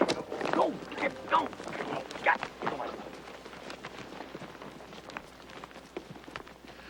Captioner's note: grumbles